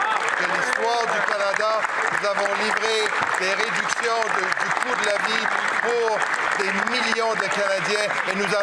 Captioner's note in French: applaudissements